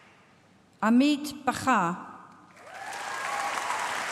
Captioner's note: applause